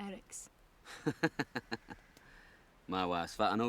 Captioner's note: Eric laughs